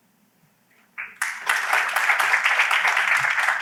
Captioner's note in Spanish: aplauso